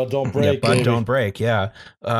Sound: snorts

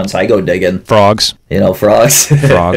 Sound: laughs

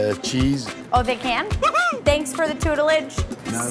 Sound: voice whoops

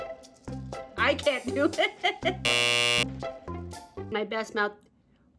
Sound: buzzer blares

